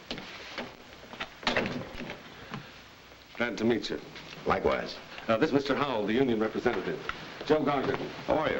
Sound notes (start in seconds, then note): 1.4 door bangs shut